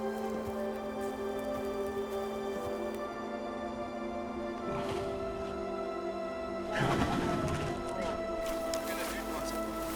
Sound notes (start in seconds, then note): 6.8 rhino snorts